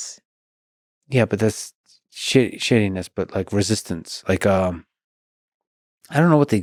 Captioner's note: none